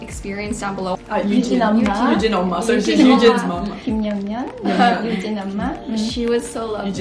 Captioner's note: speaking in foreign language